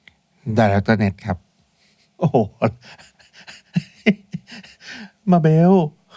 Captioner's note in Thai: เสียงหัวเราะ